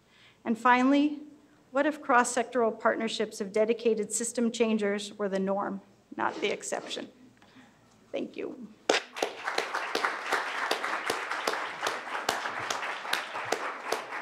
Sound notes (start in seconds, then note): 9.1 applause